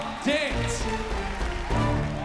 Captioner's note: cheering, applauding